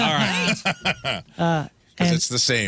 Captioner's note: laughing